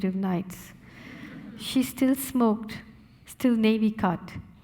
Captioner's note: audience laughing